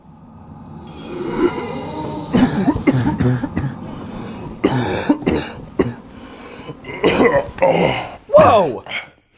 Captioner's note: coughing